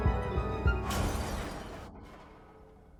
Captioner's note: glass shattering